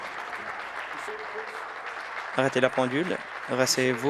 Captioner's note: applause